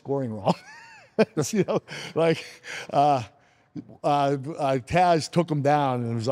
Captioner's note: laughs